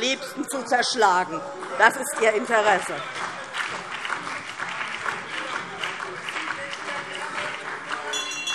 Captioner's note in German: Beifall DIE LINKE, BÜNDNIS 90/DIE GRÜNEN und vereinzelt SPD - Zurufe AfD